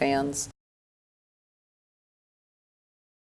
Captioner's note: silence